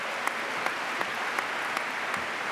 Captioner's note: applause